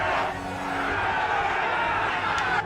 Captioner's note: crowd shouting